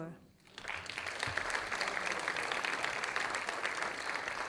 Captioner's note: audience applauding